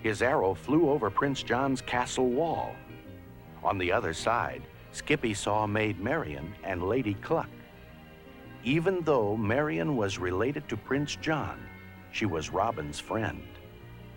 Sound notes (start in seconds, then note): none